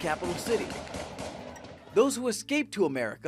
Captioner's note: gunshots blasting